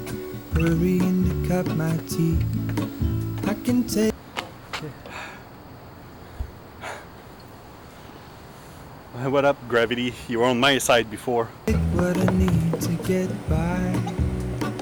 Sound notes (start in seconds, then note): 4.9 breathing heavily; 11.7 upbeat music